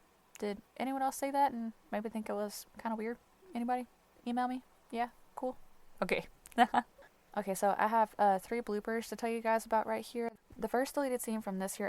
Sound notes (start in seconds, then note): 6.5 light laughter